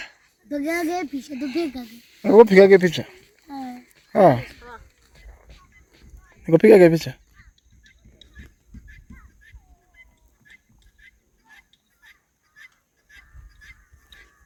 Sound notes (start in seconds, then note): 2.3 background movement and distant voices